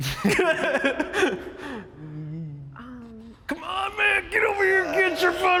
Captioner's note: laughs